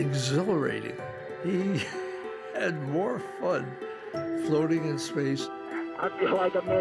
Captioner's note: chuckling